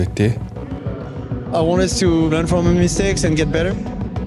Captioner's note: in English